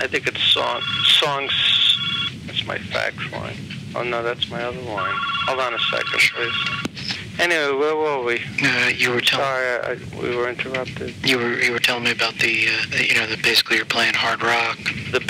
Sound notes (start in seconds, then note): 1.9 telephone rings